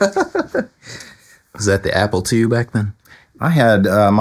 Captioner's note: laughing